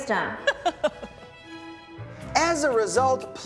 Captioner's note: laughs